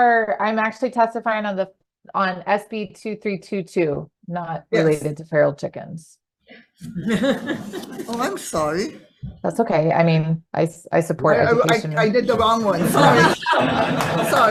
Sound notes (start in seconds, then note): 6.8 public laughs; 11.4 committees and public laugh